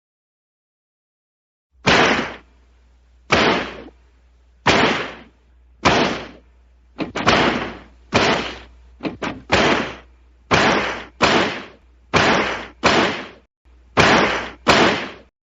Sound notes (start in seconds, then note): 1.8 loud typewriter click; 12.5 loud typewriter click